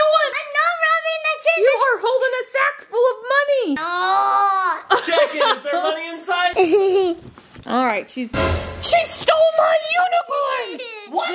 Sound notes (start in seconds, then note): 6.5 laughing